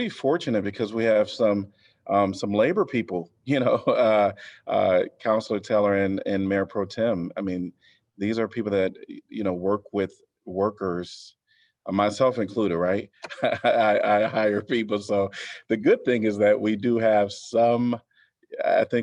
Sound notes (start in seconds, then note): 13.2 laughter